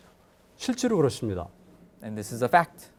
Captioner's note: speaking in Korean